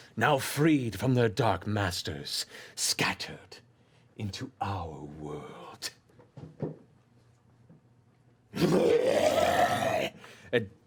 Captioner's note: roars